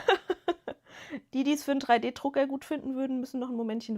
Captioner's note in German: gelächter